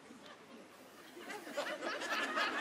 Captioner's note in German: Lachen